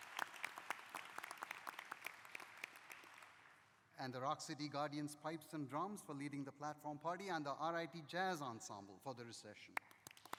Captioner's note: applause